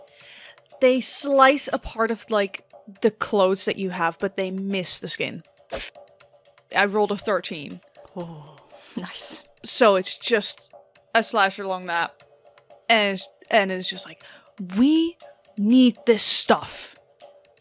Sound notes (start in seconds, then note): 5.7 sharp slicing of cloth